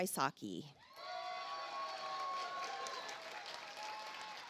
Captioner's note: audience applauds